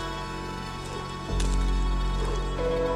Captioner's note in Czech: lapání po dechu